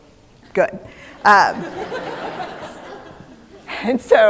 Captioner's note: laughter